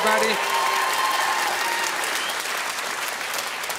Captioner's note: audience cheering